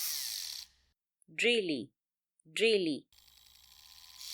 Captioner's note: drill